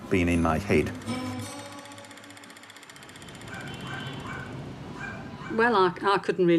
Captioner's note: music then a dog barking in the distance